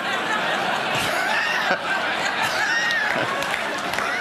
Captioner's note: laughter